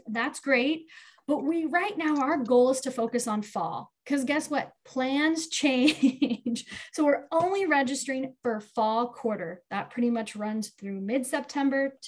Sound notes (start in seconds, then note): 5.9 chuckles